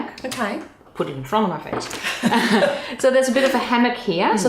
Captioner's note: laughing